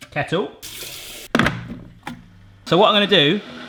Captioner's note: water flowing; kettle thudding; kettle whirring